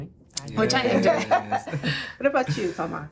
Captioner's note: laughing